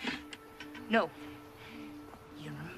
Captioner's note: none